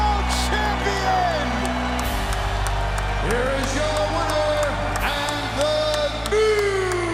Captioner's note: applause